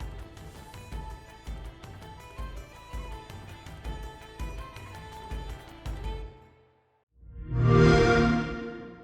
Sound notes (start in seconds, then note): 7.3 xbox sound